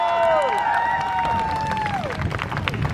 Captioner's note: crowd Cheers